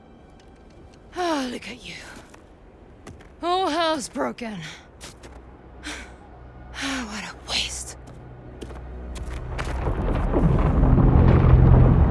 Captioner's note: gasps and sighs